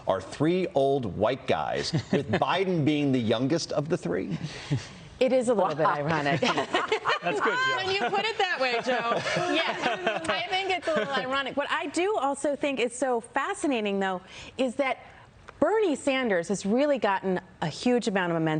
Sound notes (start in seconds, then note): 10.0 laughter